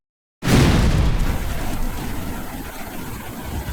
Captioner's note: crashing